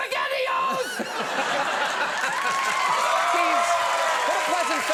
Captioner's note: audience laughs and cheers; laughs